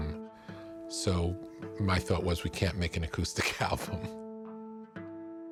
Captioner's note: chuckles